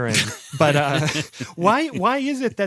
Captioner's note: laughs